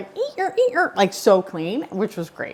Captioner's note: imitates cleaning sounds